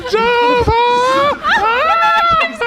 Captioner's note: yelling